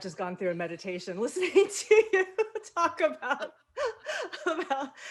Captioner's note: laughs